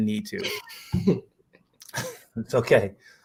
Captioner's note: laughter